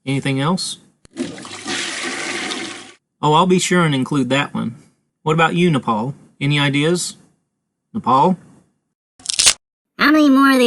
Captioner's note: flushing sound; crack